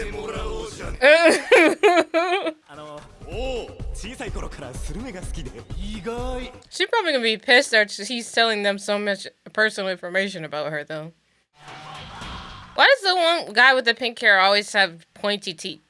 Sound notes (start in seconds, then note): 1.0 laughing